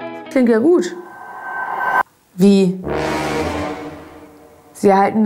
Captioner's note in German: dramatischer Sound